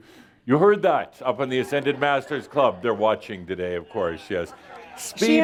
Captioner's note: laughter